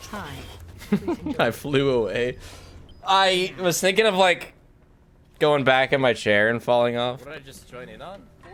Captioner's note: laughs